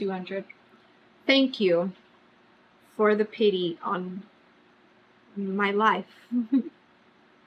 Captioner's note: laughs